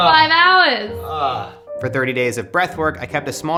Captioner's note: groans